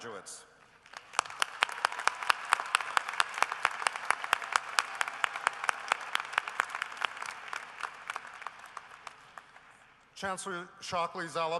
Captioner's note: applause